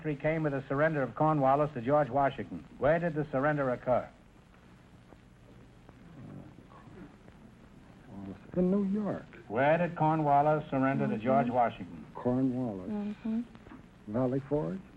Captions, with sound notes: came with a surrender of Cornwallis to George Washington. Where did the surrender occur? - (whispering)... in New York... Where did Cornwallis surrender to George Washington? - Cornwallis... Valley Forge?